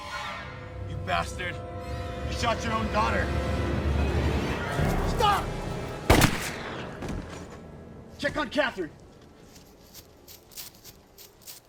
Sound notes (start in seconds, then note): 6.0 gunshot blasts